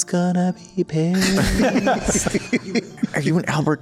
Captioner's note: laughs